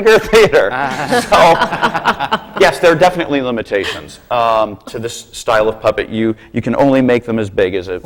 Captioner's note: laughter